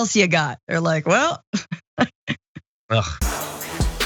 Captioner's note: laugh